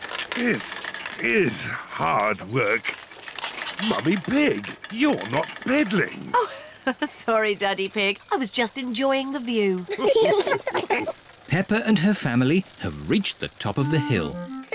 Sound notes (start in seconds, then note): 6.2 giggles; 9.9 all laugh